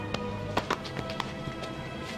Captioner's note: light smacking